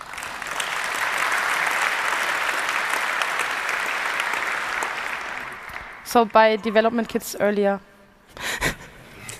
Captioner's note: applause; laughter